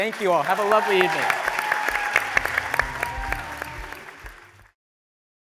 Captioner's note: applause, cheering